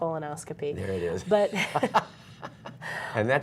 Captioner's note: laughter